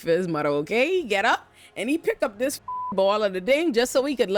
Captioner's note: beep